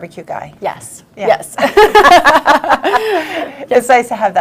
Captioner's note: laughs